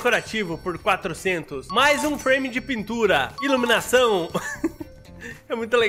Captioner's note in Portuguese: risos